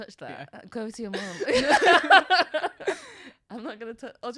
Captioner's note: laughs